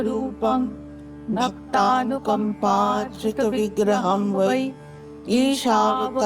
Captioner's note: chanting